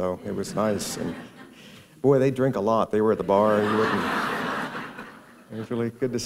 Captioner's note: laughter